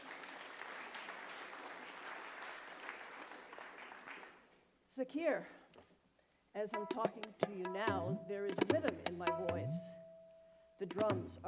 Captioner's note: applause